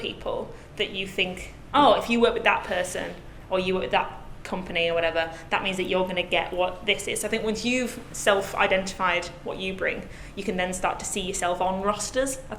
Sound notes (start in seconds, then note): none